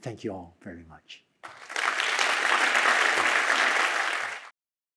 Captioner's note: applause